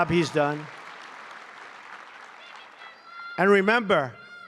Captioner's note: applause